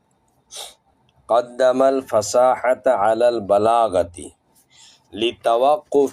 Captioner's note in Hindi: नाक से की जाने वाली आवाज़